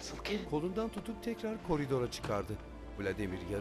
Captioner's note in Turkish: Kapı açılma sesi